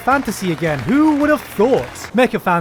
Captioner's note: applause in the background